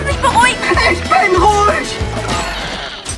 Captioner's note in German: schreit